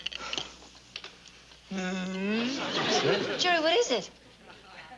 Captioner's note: groans